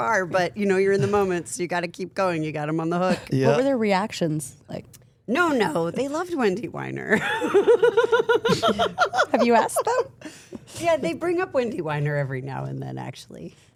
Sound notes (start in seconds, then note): 7.3 laughs